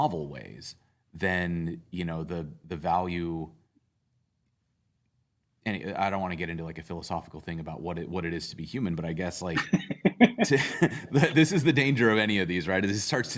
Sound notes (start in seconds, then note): 9.5 laughter